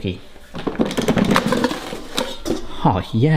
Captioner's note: bucket rattles